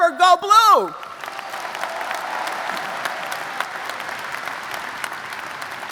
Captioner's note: audience applauds